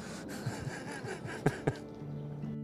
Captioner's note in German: Er lacht